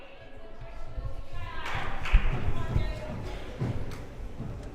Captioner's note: crowd murmuring